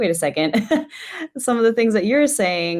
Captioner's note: chuckles